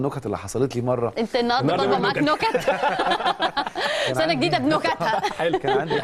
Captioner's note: laughing!